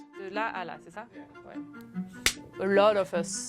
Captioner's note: woman speaking in foreign language